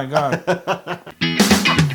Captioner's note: laugh